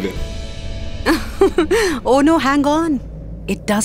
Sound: laughing

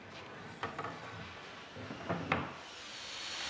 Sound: drilling noise

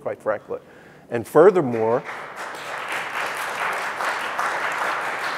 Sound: audience applause

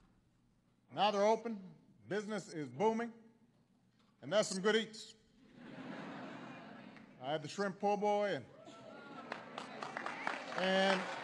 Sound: laughter

